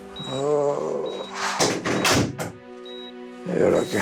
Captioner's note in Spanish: Sonido al cerrar la puerta